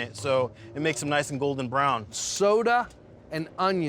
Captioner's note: none